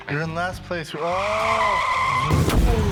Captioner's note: crash